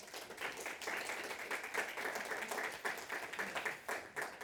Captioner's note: audience clapping